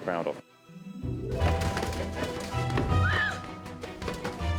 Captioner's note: clattering